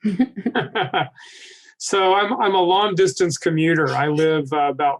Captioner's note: laughing